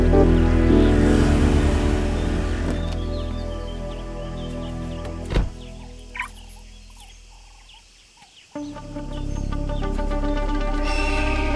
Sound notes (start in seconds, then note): none